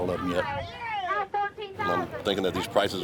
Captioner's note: auctioneers yelling